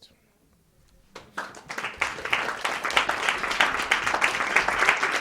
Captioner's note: audience applause